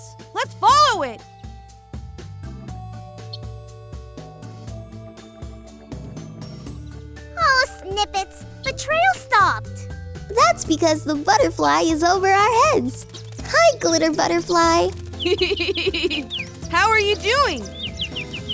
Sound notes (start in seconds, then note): 13.2 laughs; 15.1 tweeting